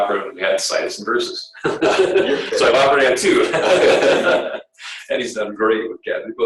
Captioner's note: laughter